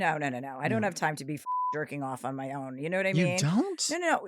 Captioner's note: beep